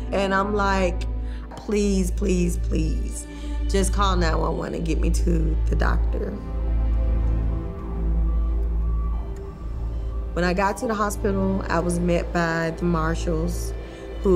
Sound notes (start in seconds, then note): 6.3 siren wailing; 7.4 EKG beeping